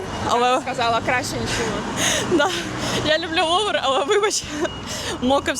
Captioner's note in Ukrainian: сміх